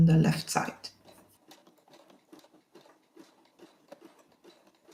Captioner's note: machine whirring